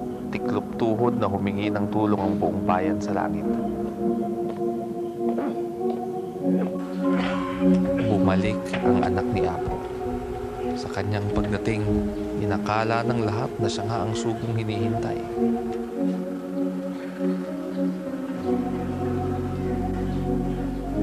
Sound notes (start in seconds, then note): 5.6 grunting; 7.1 coughing